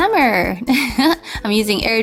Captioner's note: giggling